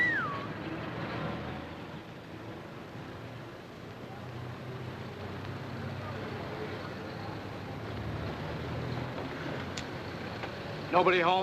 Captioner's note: wolf-whistles